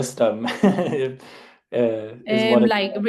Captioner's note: laughs